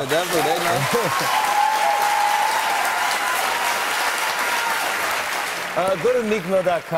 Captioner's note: cheers and applause